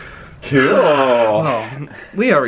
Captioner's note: sighs wearily